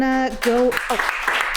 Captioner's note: laughter